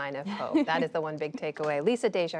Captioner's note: laughter